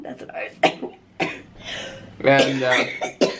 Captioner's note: coughing